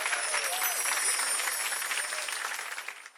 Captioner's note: gentle chimes ringing